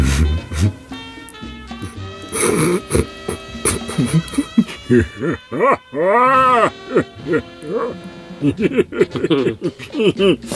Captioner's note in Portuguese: risos